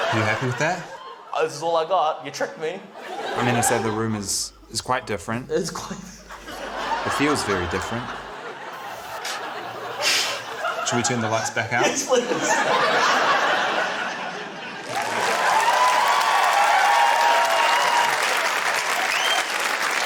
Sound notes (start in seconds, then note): 6.1 laughs; 14.5 cheering, applause